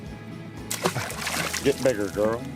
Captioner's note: water splashing